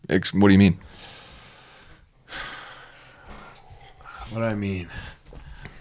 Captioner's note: takes breath